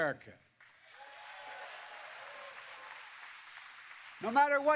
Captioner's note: applause